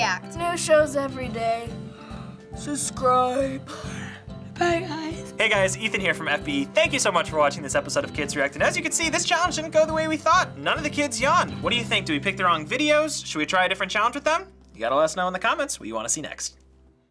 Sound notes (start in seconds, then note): 0.4 drowsily; 3.2 yawning